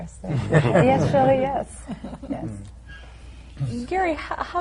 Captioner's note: laughter